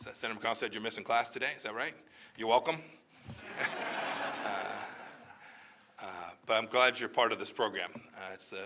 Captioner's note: laughter